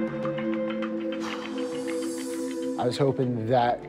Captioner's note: sighs